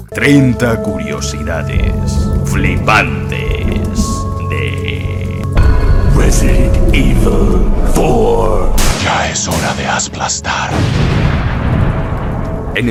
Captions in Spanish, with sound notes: 30 curiosidades flipantes de... [susurro] ya es hora de aplastar